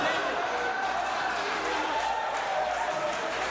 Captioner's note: crowd chatter